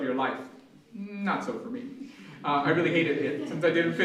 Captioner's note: laughter